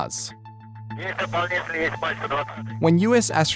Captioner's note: man speaks russian over radio